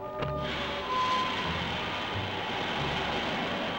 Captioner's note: air hissing